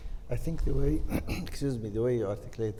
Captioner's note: clears throat